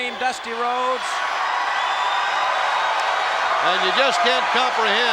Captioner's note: crowd cheer